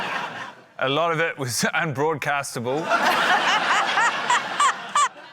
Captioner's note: laughter